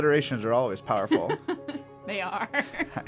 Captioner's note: laugh